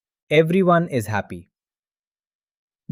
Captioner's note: pause